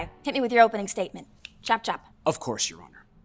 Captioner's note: snapping